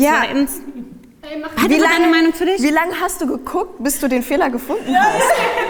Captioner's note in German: lachen